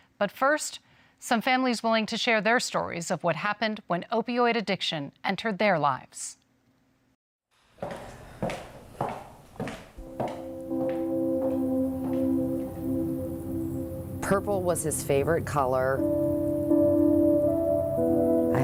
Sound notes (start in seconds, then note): 7.8 footsteps clacking; 10.1 solemn music; 16.1 solemn music